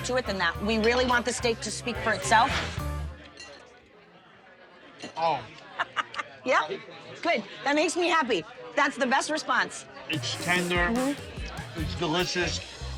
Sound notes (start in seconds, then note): 4.5 laughs